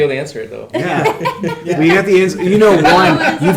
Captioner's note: laughing